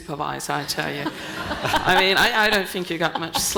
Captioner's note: panel and audience laughing